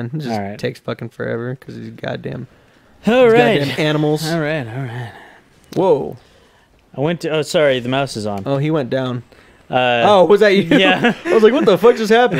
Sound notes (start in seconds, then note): 3.8 loud sigh